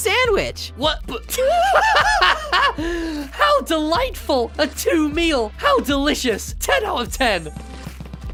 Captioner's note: two laughs